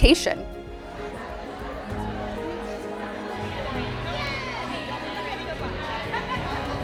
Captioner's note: crowd chattering